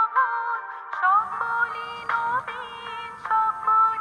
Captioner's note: phone alarm rings